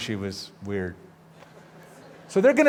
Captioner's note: laughter